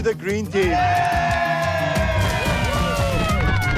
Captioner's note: cheering